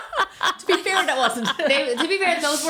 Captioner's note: laughing